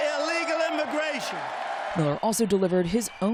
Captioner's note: cheering